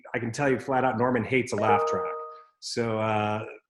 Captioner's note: computer notification rings